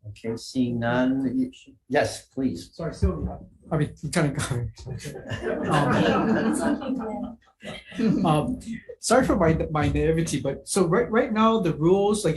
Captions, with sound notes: Okay, seeing none. - Yes, please. - Sorry, Sylvia, I mean, Lieutenant Governor. (all laugh) Sorry for my, my, naivete. But, so right, right now the rules,